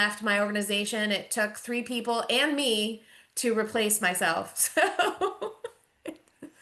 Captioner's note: laughs